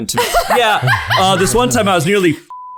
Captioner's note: laughter